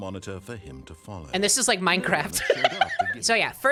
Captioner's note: laughing